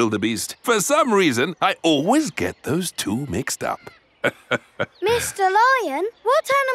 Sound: laughs

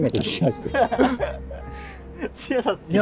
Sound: laughing

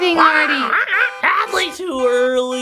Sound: bird squawking

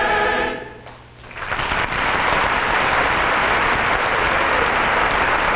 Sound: audience applauding

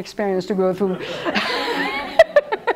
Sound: laughs

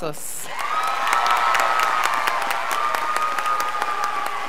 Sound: crowd applauding

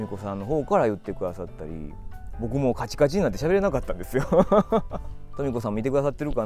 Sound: laughs

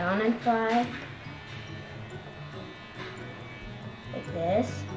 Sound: plane buzz

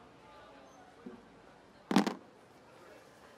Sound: slams phone down

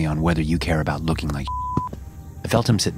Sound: beep

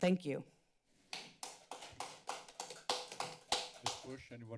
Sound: applause

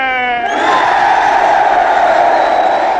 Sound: cheering and whistling

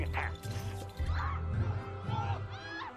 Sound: people Screaming

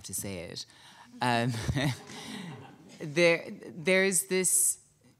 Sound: audience chuckling

